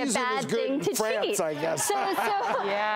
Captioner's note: laughing